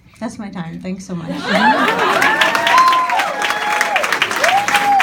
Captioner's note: audience cheering